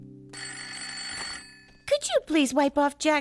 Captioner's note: telephone ringing